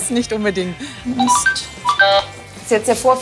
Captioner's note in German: Piepsen